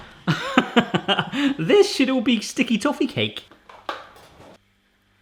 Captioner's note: lauging